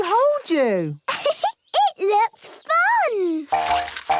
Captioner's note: giggles